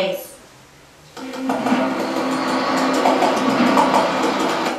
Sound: car rustling

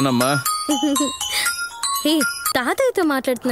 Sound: mobile ringing

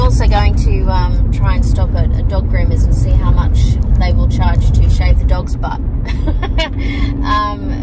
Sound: laughs

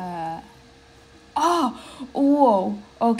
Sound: le gasp

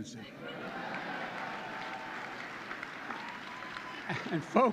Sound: applause

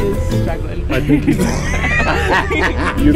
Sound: laughter

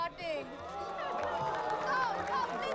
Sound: cheering, applause

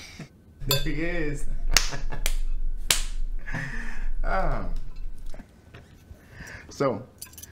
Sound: hands clapping; Issac chuckles

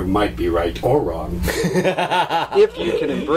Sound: laughs loudly

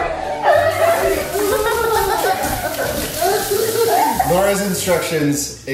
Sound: water running

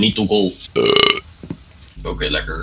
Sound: burp

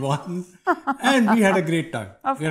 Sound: laughs

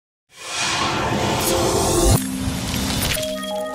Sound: swoosh sound

